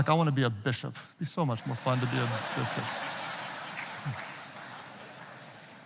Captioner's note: audience laughing